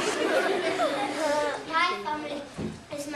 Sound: laughter

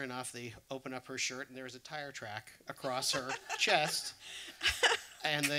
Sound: laughter

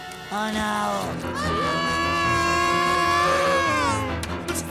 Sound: screaming

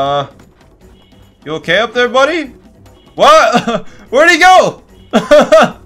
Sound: laugh

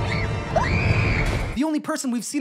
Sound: screaming

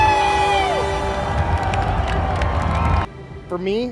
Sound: intense cheering

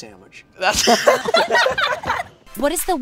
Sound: laughter

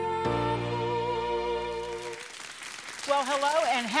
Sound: applause

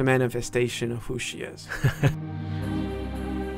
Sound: voiceover

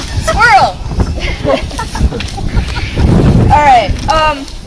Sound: laughing

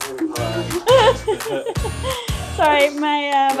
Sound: laughing

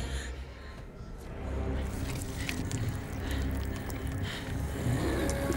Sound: guts squishing; Luther growling

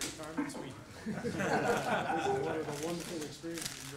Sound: laughter

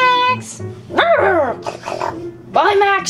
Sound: short bark and a snort

